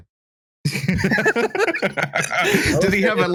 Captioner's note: laughter